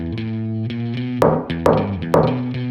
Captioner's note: knock, knock, knock